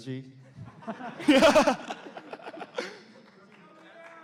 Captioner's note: laughter